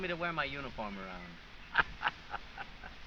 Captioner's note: laughs